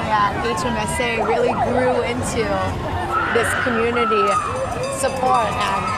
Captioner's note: crowd cheering